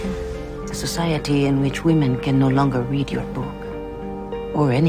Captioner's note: voiceover